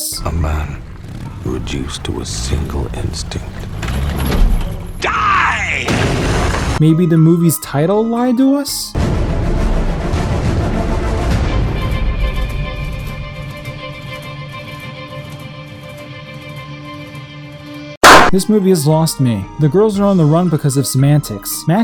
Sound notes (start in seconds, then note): 5.7 explosion; 18.0 clap